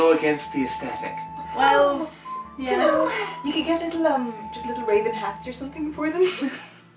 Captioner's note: cooing